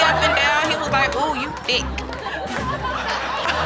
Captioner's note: audience laugh; audience gasp and laugh